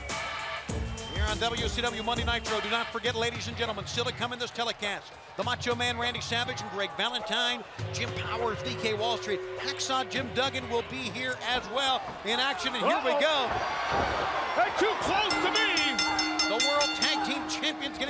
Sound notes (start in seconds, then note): 15.0 bell ringing